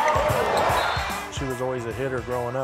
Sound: people shouting

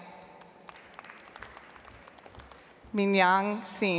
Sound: audience applauds

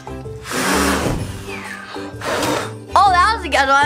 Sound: blows air

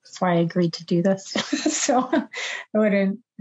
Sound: laughs

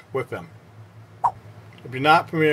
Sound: swipe Sound

